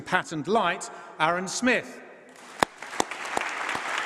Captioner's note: applause